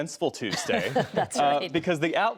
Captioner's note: laughter